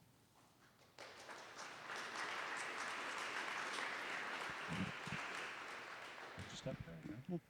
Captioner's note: audience applauding